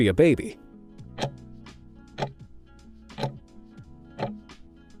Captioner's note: timer ticking